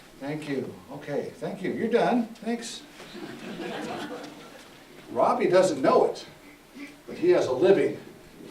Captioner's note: audeince Laughs